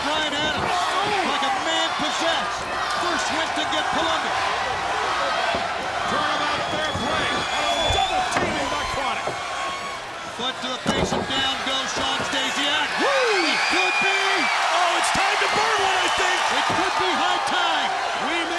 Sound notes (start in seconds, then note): 4.1 crowd chatter; 14.6 crowd cheering